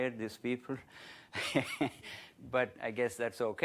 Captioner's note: laughs